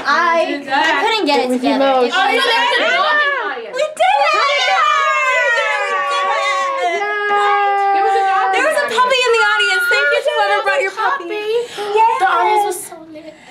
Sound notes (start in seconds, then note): 3.8 cheering; 11.6 gasping